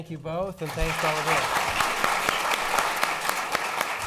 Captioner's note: applause